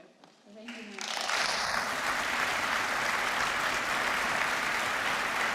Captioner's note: applause